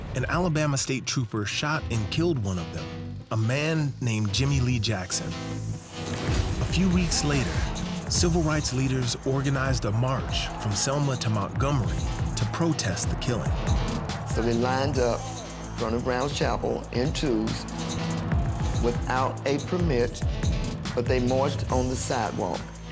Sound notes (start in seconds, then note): 5.4 gunshot